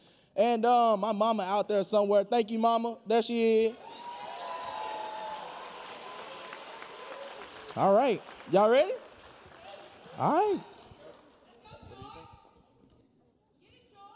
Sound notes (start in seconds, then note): 3.8 audience cheering; 3.8 audience applauding